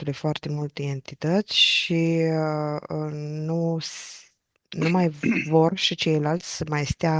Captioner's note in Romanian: voce dreasă